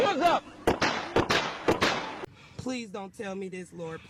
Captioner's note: gun fires